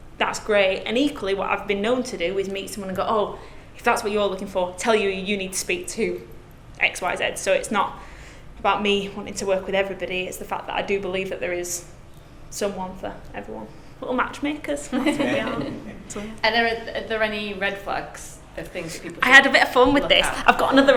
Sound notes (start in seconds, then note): 14.9 group laughing